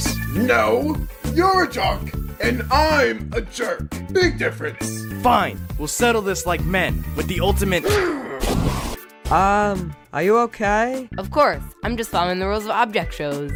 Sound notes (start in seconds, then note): 8.4 splash